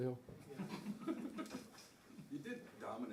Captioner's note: laughter